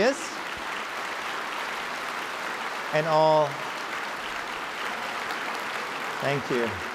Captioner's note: applause